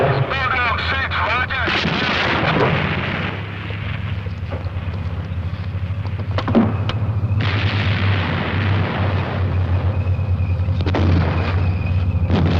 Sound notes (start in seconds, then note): 3.2 tank rumbling; 9.9 screeching